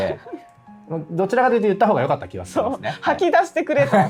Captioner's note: laughs